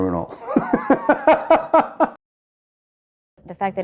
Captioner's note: laughs